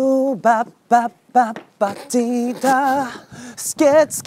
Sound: laughter

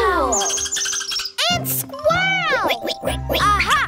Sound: squeaking

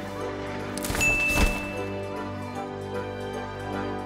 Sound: dinging

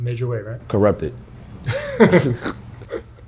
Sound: laughs

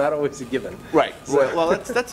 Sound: laughing

